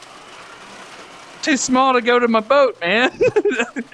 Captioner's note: laughs